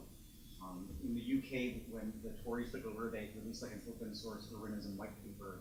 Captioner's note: speaks faintly